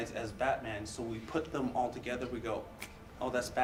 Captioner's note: snaps